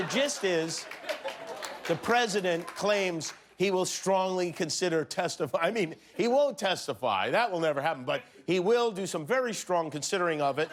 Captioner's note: laughter